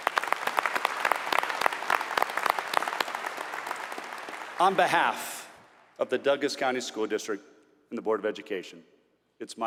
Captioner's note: applause